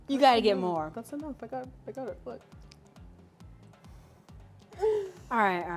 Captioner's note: winces